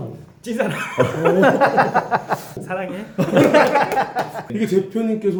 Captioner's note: laughing